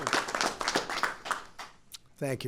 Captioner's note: applause